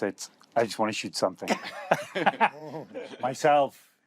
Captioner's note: laughter